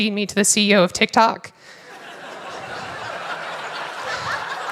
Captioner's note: laughter